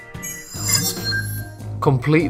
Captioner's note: sharp chiming